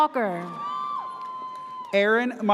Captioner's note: audience cheers